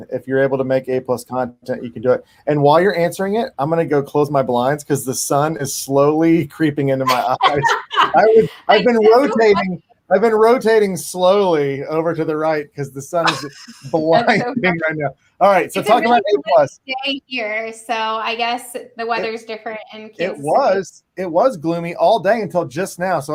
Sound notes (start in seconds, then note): 7.0 panelists laugh